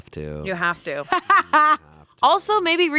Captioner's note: laughing